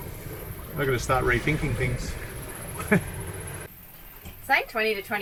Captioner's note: chuckles